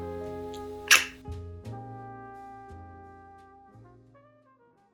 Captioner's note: tongue clicking